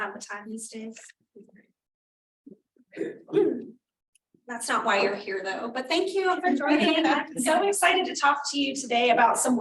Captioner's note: laughter